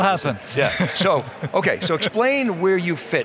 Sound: laughing

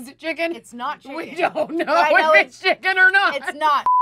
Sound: laughing

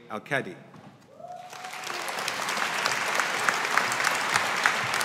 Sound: audience applauding

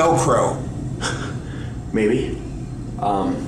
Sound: laughs

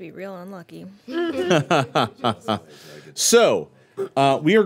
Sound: laughing

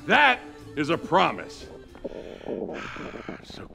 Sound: stomach grumbling

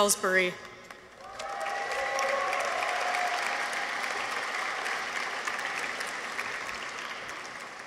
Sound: audience applauds; people cheer

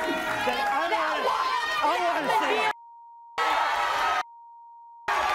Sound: beep

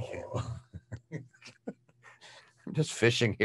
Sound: laugh

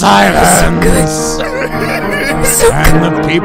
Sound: whole lot of sobbing

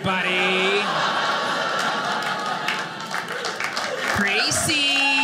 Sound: audience laughing

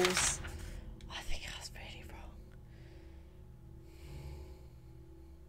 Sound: whispering

